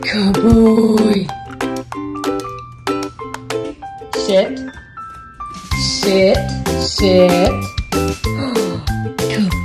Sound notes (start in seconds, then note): 8.2 gasps